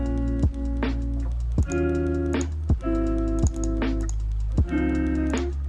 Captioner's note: asmr clicks from my previous mouse